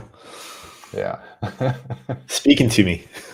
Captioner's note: chuckles